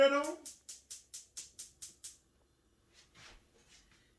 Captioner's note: griddle ticking